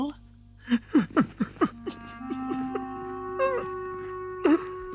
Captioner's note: sobbing continues